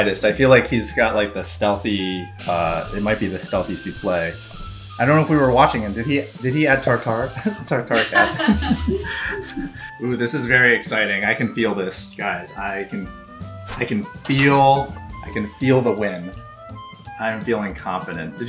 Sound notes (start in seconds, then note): 4.3 mixer whirs; 7.9 laughs